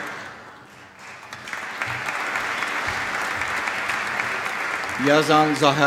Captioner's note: applause